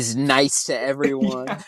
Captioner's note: both laugh